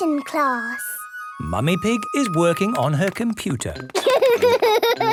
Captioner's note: laughter